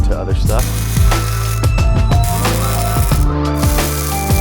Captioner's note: weld sizzles